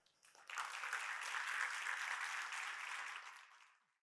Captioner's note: audience clapping